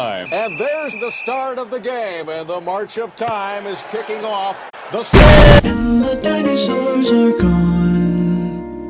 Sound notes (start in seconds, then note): 5.1 explosion; 6.4 jingle